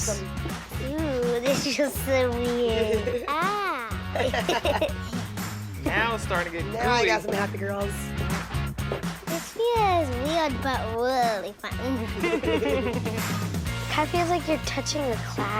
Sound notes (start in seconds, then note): 4.1 laughter; 11.9 laughter